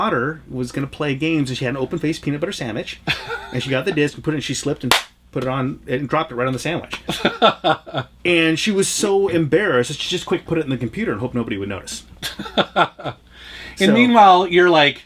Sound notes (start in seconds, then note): 7.0 laughs; 12.2 laughs